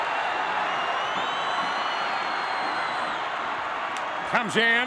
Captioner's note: crowd cheers